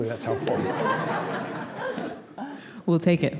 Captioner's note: laughter